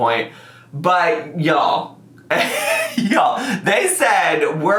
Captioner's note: laughs